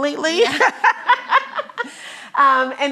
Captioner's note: laughing